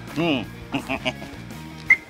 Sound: laughs

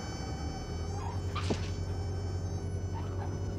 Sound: tires thump down, squeak

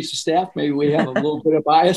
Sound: laughing

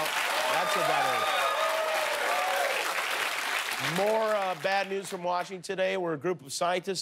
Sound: cheers and applause

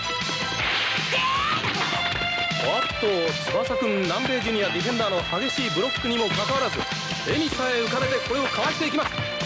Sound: applause

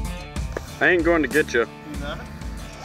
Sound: voiceover

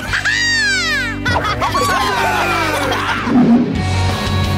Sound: cheering

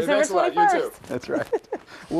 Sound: laughter

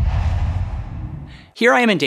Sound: logo swooshes

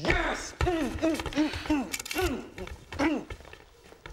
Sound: Squibb grunting

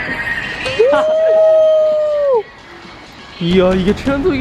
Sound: fans cheering nearby

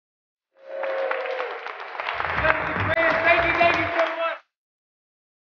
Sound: applause

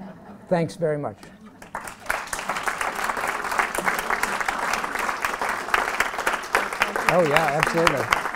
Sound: applause

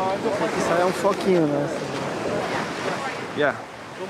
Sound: speaking foreign language

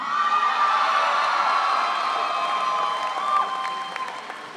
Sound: audience cheering

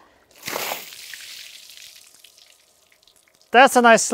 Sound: water splashing

